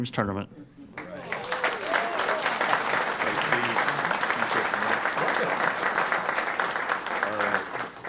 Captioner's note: applause